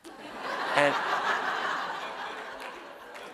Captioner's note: laughter